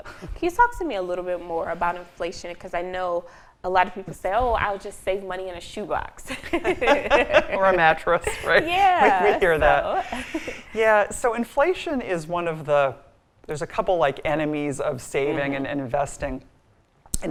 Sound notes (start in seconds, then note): 6.3 both laughing